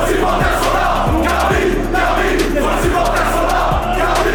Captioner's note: chanting